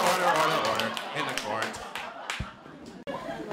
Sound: audience laughter

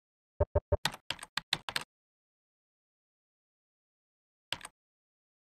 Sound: typing sounds

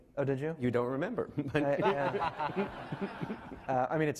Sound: laughing

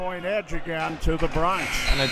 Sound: buzzer ringing

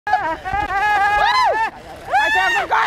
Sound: all screams

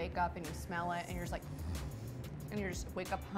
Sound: sniffing

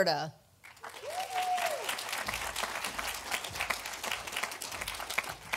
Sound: audience applauding

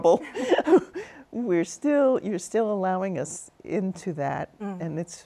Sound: laughs

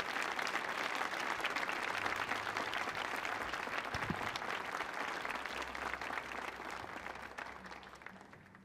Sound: applause

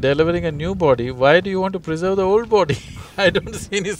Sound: laughs

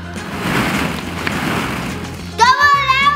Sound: balls shuffle

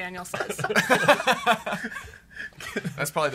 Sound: laughs

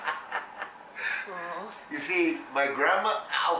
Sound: laughs

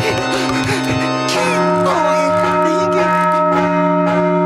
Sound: panting; bell ringing; yelling

